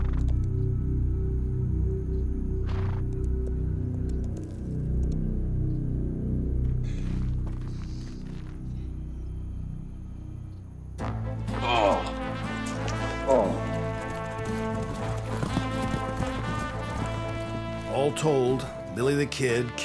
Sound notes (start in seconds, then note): 11.5 billy groans